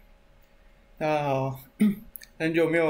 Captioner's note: cough